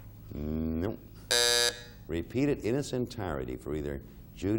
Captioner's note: buzzer beeping